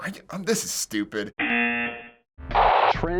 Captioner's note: buzzer